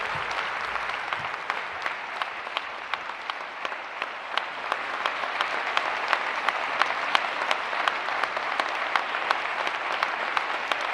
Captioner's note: applause